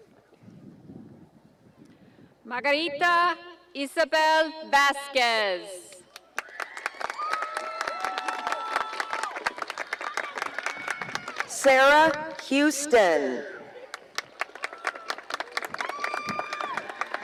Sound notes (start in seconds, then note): 2.5 reading names, cheering, applause